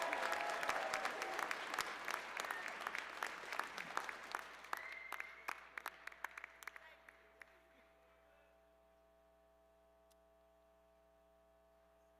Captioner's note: cheers and applause